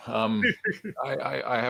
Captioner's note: laughs